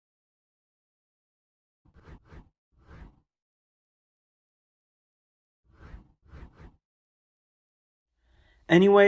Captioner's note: transition swooshes